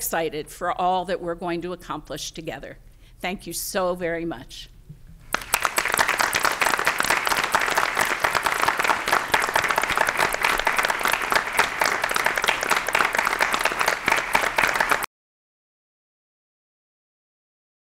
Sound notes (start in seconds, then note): 4.8 applause